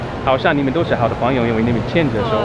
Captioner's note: mandarin